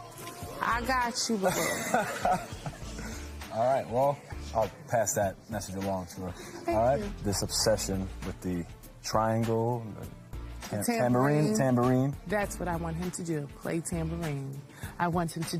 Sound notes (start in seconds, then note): 1.4 laughter